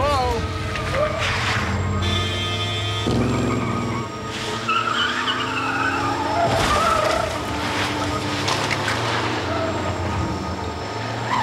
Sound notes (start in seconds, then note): 1.9 car honks